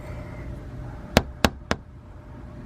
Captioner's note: knocking